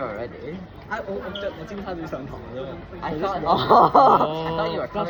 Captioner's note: Cantonese